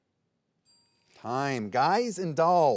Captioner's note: bell ringing